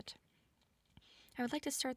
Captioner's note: silence ensues